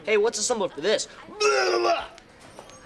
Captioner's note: vomiting sounds